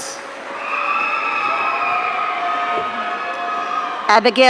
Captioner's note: audience cheering